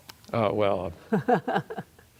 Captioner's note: laughter